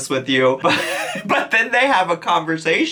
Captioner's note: chuckles